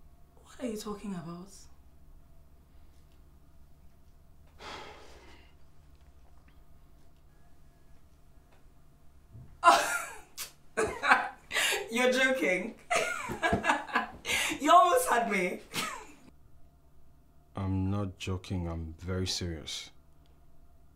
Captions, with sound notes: What are you talking about? (Nosa sighs) (Efosa laughs) You're joking... (Efosa laughs) You almost had me. I'm not joking. I'm very serious.